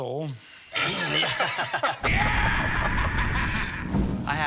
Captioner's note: laughter